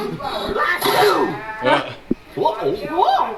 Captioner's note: sneezing